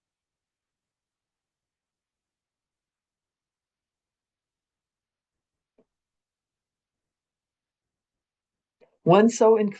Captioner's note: pause